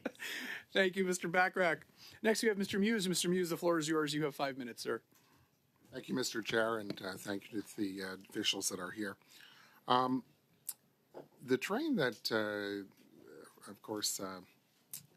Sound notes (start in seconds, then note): 0.0 laughter